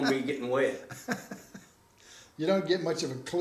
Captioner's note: chuckling